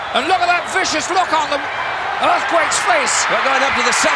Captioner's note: audience cheering